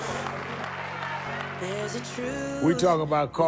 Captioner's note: audience cheers